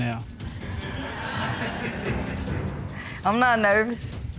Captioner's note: audience laughing